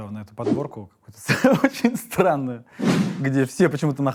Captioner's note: laughing